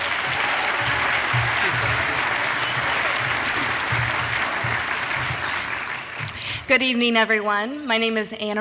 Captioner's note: applause